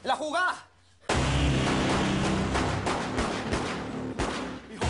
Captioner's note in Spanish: Disparos